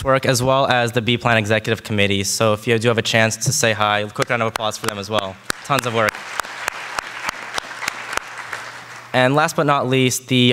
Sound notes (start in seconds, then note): 5.4 audience applauding